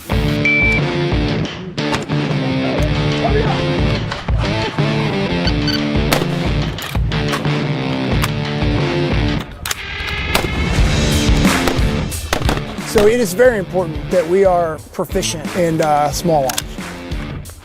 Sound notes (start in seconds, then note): 0.1 intense rock music; 1.9 weapon firing; 3.4 intense rock music continues; 11.4 weapon firing; 11.4 weapons firing; 11.5 intense rock music continues